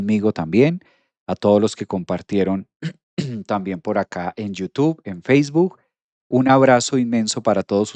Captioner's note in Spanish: carraspeo